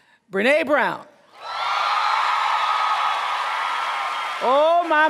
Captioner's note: cheers and applause